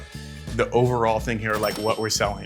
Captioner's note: register bell rings